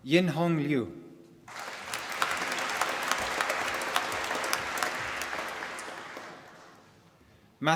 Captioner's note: applause